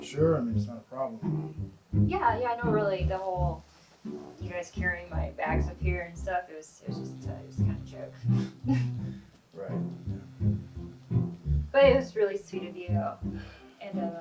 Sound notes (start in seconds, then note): 8.6 chuckles